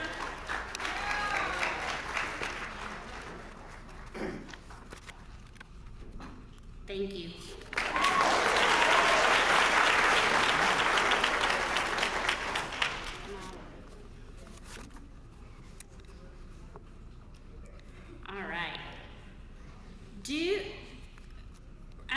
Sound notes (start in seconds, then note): 1.0 applause